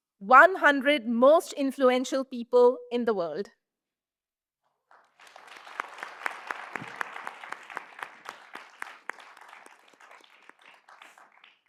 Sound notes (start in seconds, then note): 4.9 audience applauds